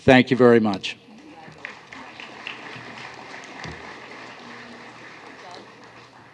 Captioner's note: applause